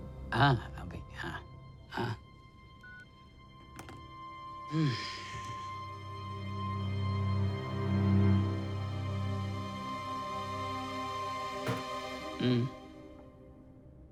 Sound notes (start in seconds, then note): 2.8 phone beeps; 4.6 sighs